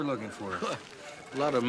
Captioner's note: chuckles